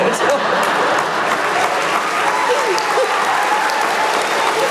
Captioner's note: laughter